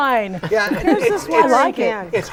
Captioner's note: laughing